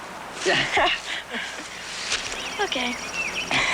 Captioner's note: both chuckle; chuckles